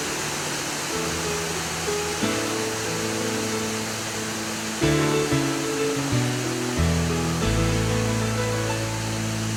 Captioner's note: sound of the waves